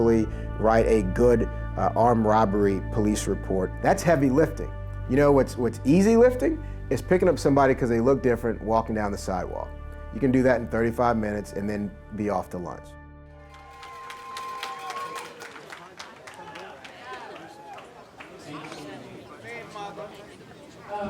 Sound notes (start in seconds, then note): 13.4 group cheering; 16.4 muffled group chatter